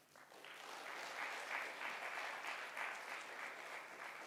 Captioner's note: audience applauds